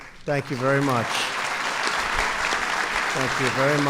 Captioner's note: applause